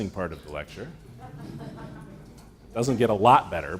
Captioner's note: laughter